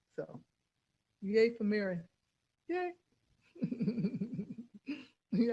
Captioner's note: laughs